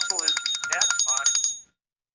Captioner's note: bell ringing